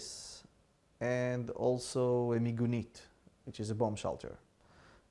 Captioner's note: hebrew